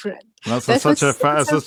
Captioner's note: laughs